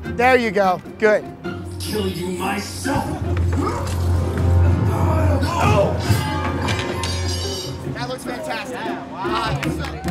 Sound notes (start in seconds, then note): 3.5 grunts; 6.0 metal clanging